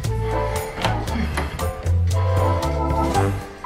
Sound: door opens

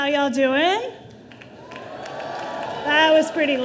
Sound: audience cheering

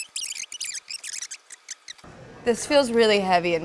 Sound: fast forward squeaking

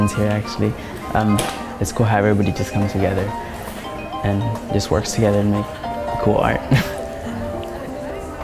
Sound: laughs

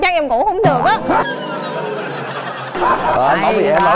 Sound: audience laugh

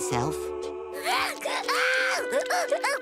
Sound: crying

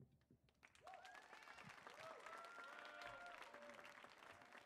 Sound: audience applauds

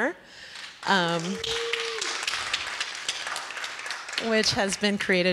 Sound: applause

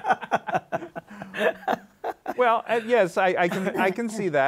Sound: all laughing

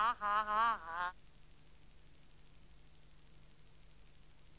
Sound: silence

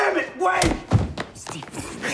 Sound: smacking

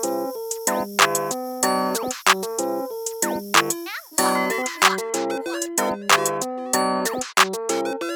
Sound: nozzle flies off

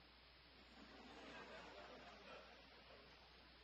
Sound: audience laughter

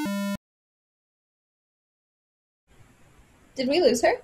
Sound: buzzer vibrating

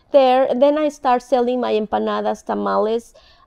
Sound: speaking in foreign language

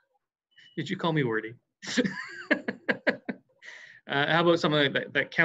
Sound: laughs

